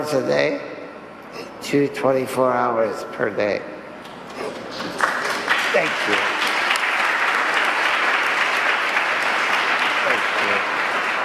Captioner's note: applause